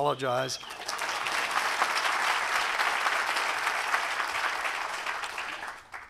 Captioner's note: applause